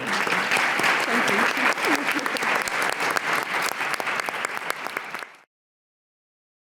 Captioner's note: audience and panellists applauding; giggles